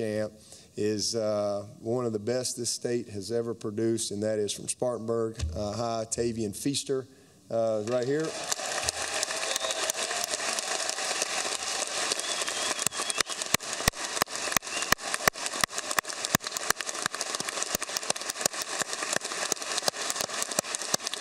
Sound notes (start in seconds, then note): 7.8 applause